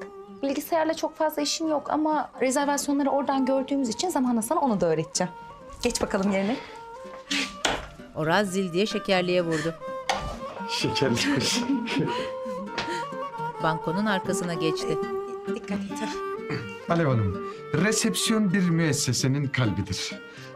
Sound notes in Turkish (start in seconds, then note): 7.1 Vurma sesi; 11.2 Gülme sesi